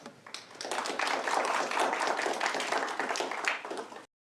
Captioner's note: applause